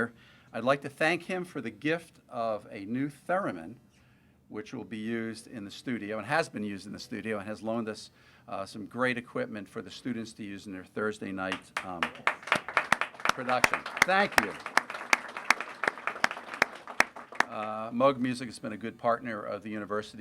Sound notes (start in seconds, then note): 11.5 applause; 15.1 applause continues